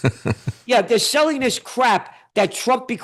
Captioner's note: laughing